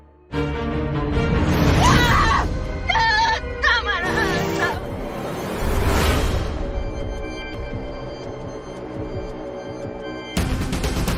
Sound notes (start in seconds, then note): 0.0 dark music continues; 1.6 screams hysterically; 5.1 dark music continues